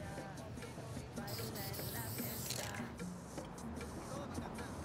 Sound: spraying

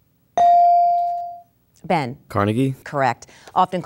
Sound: dinging

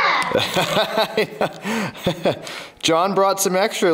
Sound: father laughs

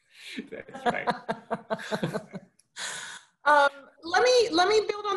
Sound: laughs

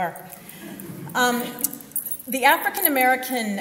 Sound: audience laughs

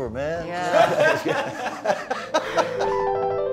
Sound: laughter

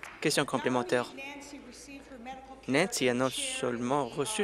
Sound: applause

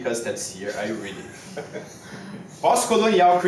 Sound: a post-doc laughs loudly

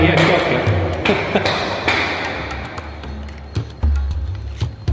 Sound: speaks foreign language; hand spanks thighs

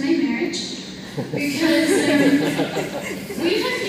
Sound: laughter

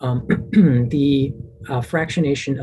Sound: clears throat

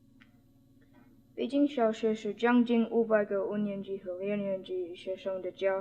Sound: spoken in Mandarin Chinese

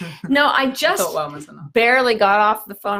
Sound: laughs

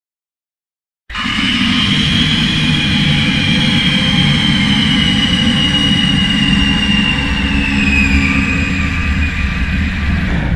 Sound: scream

